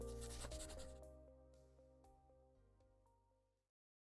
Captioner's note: scratching sound